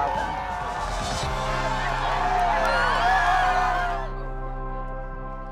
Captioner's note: cheering